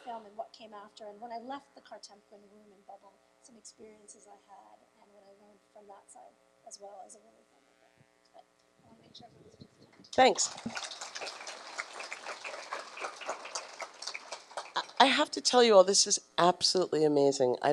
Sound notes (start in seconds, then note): 8.5 murmuring; 10.1 applause